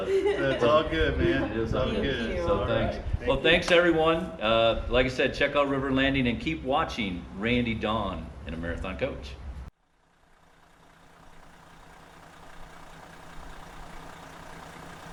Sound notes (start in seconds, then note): 9.4 engine purring